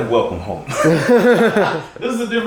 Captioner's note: both laughing